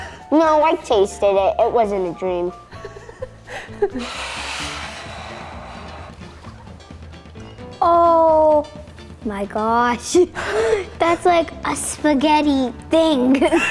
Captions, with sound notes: No, I tasted it, it wasn't a dream. (laughing) (plate sliding) - Oh my gosh! That's like a spaghetti thing.